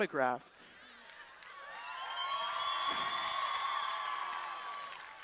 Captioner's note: cheering